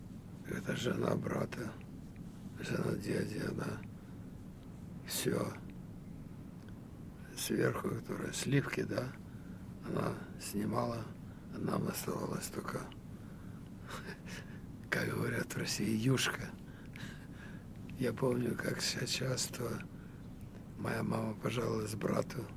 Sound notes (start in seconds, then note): 13.2 laughing; 15.7 russian